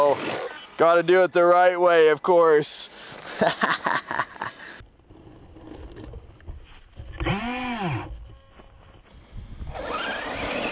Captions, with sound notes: Gotta do it the right way of course. (laughs) (engine whirring)